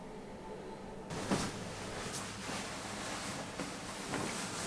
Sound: fabric rustling

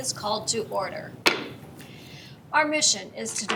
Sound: gavel bangs

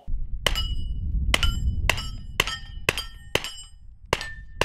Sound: fires single shots

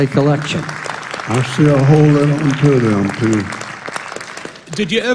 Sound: applause

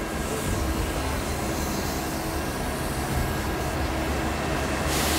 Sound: machines whirring

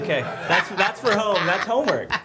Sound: loud laughing

